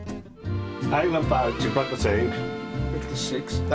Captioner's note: speaking Italian